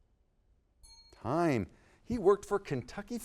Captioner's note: bell dings